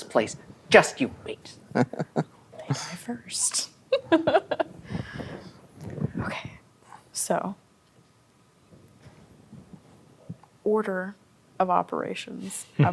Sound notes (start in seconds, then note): 1.7 chuckles; 3.9 laughing